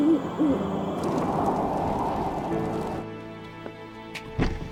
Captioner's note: fire crackles